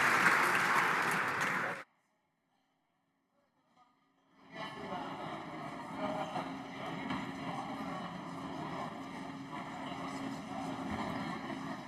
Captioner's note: applause